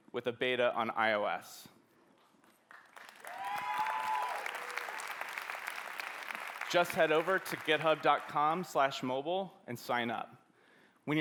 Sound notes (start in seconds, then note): 3.0 cheering